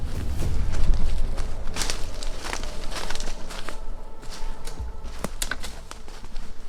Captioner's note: twigs snapping